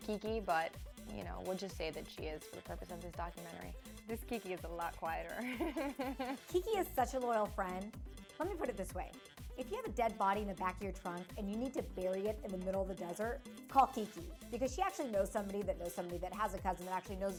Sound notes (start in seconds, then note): 5.4 laughing